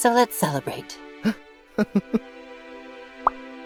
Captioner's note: Silver Spoon laughs